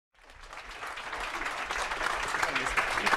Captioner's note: applause